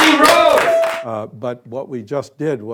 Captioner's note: clapping and cheering